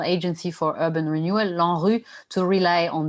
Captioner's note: non-english speech